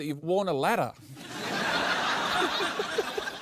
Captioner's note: laughter